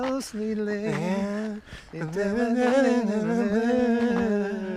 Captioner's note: both humming